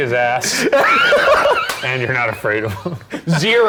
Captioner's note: everyone laughing